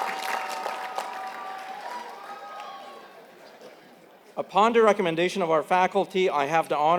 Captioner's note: applause